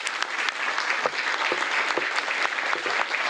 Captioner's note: applause